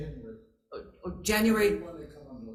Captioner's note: offscreen Voice